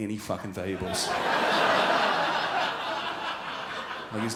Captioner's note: crowd laughs